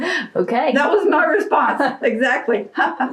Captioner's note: laughs